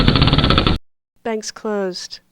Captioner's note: wheel clicks